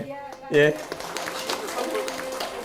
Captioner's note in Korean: 박수